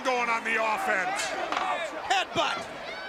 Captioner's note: crowd cheering